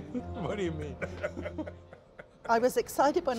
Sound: laughing

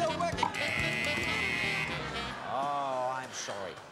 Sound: alarm buzzes

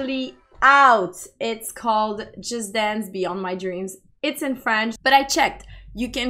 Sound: it’s in french

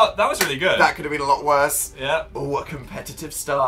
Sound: claps

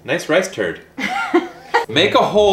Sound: laughing

